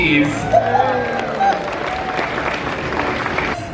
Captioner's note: applause